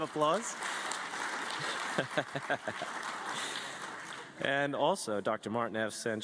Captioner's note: applause